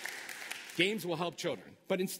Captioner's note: applause